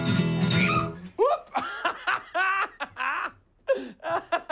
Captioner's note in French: en riant